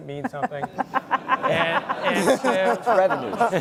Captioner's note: laugh